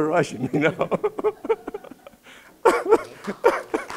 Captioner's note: laughing; clapping